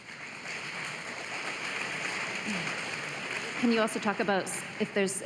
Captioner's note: applause